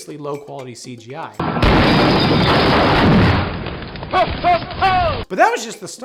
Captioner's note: explosion sounds